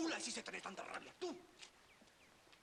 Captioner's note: arguing in Spanish